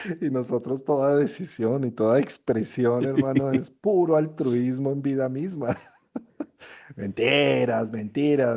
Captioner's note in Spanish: risas; risas